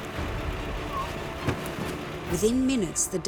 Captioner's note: thud